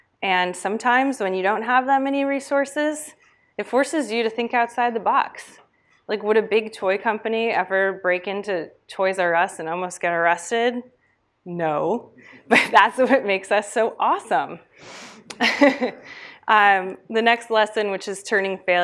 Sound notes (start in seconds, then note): 15.2 laughs